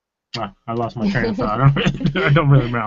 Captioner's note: laughing